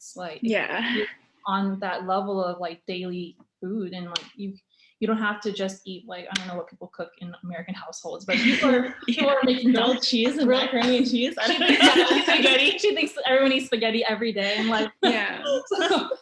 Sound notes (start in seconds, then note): 11.4 laughter